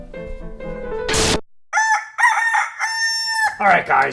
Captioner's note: static; rooster crows